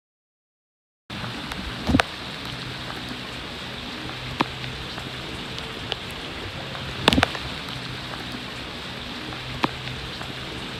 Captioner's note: continuous heavy rain